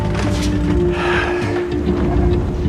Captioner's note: sighs